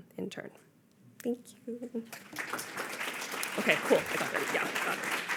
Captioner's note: audience applauding